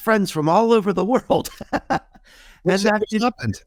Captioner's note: laughing